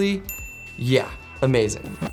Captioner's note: bell rings